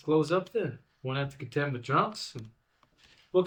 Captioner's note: none